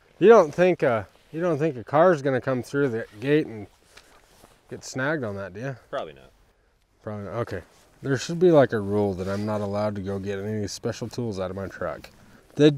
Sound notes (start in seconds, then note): none